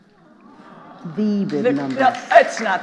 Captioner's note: audience "aww"ing; audience applauding